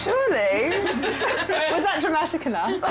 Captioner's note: laughter